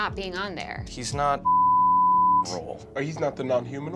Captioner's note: beep